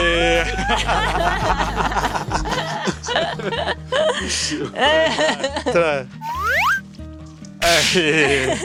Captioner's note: laughs